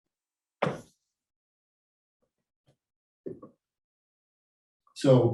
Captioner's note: chalkboard taps loudly